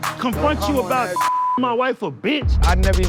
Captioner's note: beep